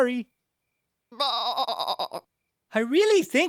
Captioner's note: sad bleating